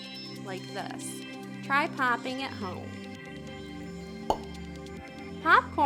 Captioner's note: pop